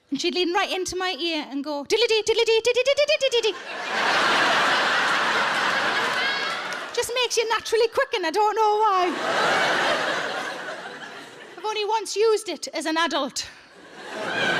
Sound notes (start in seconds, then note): 3.5 audience laughing; 9.0 audience laughing